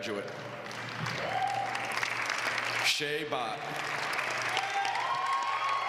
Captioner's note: applause